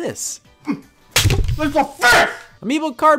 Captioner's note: cards thud